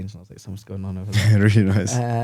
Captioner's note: laughs